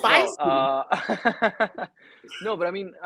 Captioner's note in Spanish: riendo